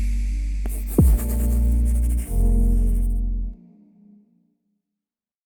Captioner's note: pencil writing